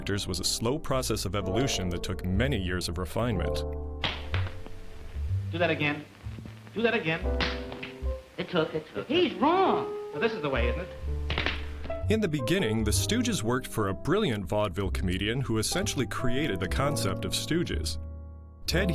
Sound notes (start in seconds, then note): 4.0 hand smacking; 7.3 hand smacking; 11.2 hand smacking